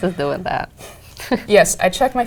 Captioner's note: laugh